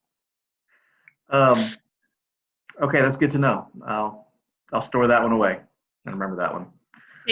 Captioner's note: laughs